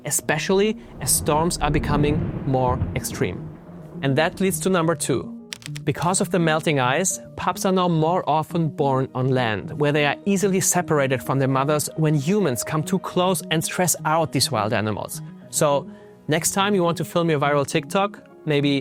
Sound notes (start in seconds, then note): 5.5 graphics clacking